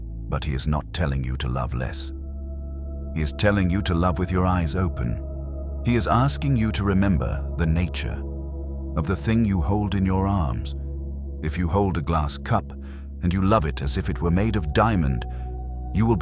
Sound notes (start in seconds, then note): 5.8 nature